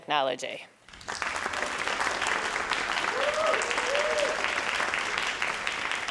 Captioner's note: crowd cheering and applauding